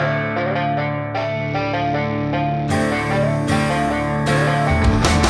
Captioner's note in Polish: Aplauz